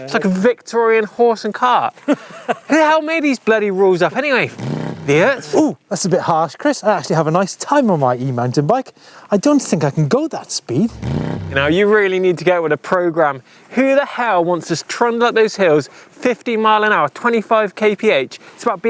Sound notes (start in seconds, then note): 2.0 laughs; 4.5 engine revs; 10.9 engine revs